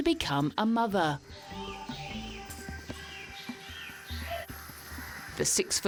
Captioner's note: birds chattering